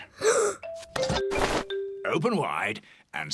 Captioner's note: gasps